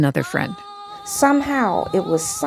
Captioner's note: soundbite of archived recording